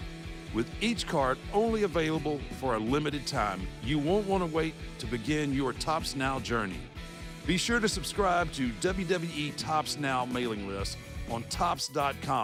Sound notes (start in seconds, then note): none